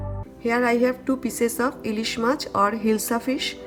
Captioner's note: speaks in foreign language